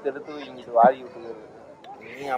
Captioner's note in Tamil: none